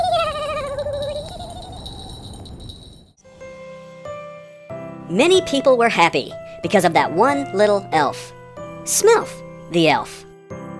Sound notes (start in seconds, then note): 0.0 Smelf giggles and bells jingle; 0.0 wind howl